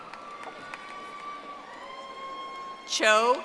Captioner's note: audience applauding